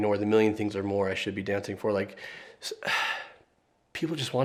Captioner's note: sighs